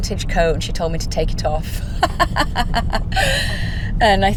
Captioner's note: laughs